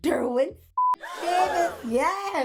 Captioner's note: beep